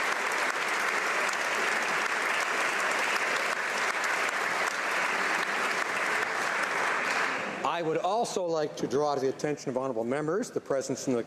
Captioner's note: applause